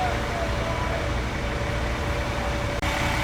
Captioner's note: loud trucks running, cars beeping, chatter in the distance